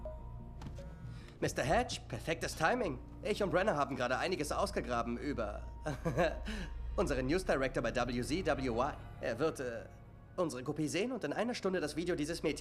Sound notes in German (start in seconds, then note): 0.0 seufzt; 5.9 lacht